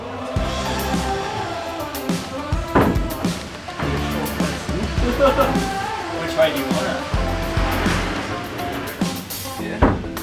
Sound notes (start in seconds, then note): 0.2 upbeat music; 5.2 laughing